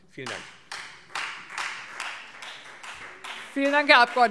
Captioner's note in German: Beifall Freie Demokraten